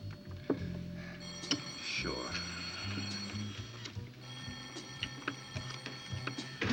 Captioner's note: telephone ring